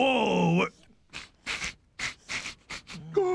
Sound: sniffing

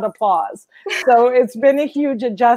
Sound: laughs

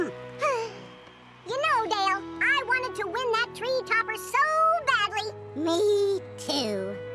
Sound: sighs

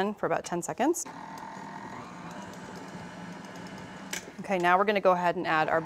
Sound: mixer whirring

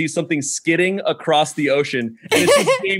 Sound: laughs

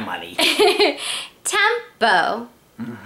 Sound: chuckles

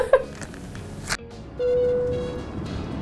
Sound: upbeat music; dinging

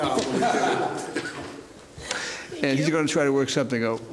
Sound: laughter

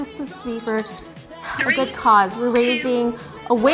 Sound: beeps

